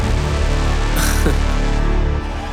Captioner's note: laugh